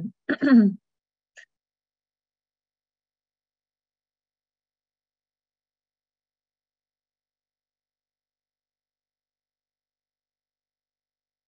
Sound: silence

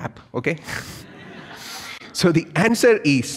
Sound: audience laughs

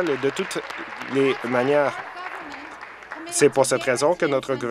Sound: applause

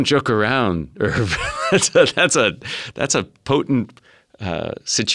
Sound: laugh

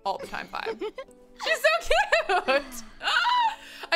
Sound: laughs; Ariel giggles

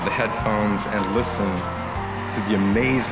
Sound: cheers

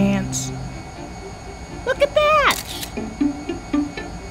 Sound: camera click

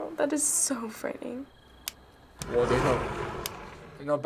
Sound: window slides open

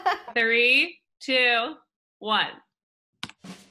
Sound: laughs; woman's Voice; jazzy drum music

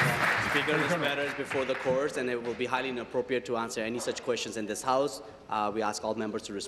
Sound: applause

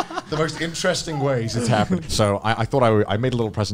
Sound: all laughing

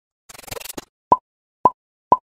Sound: thwip! pop, pop, pop

